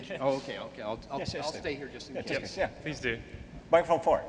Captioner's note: voiceover